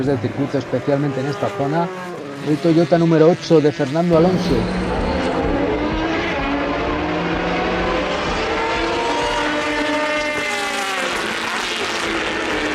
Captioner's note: motors